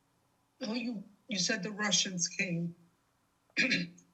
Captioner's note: clears throat